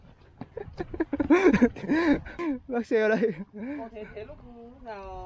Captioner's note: Tiếng cười